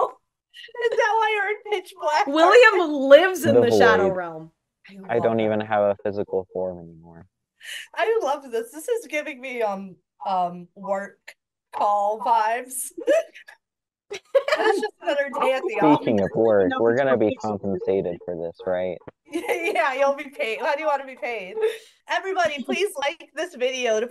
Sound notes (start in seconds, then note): 14.1 laughter